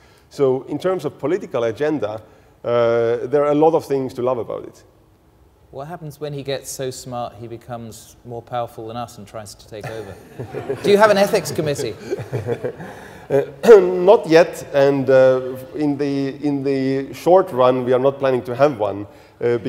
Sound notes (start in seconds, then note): 9.9 audience laughing; 12.5 laughs